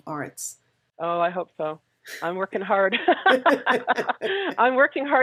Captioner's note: laughs